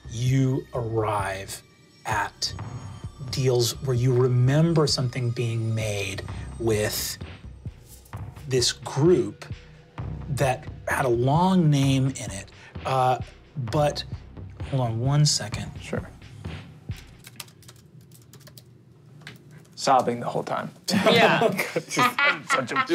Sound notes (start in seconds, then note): 17.0 typing; 20.9 laughing